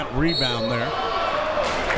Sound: whistle tweeting

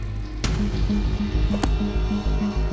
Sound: book closes

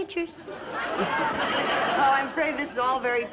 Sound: audience laughs

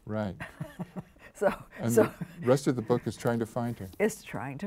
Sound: chuckles

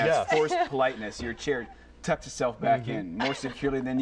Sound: laughter

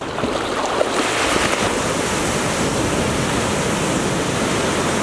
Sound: waves crashing

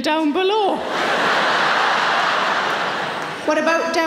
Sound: audience laughing

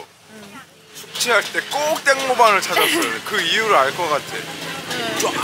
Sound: laughing

